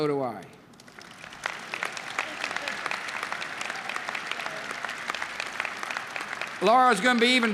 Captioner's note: applause